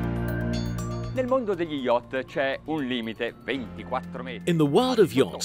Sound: speaking in Italian

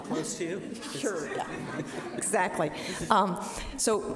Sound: audience laughs

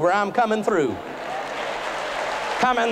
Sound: applause

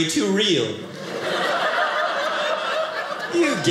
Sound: audience laughing

